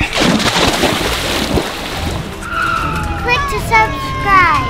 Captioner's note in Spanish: salpicando agua